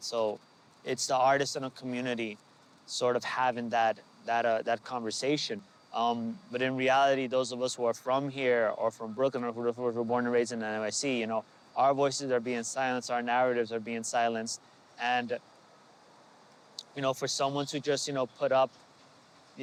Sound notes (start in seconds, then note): none